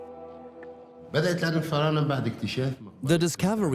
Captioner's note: Arabic dubbed in English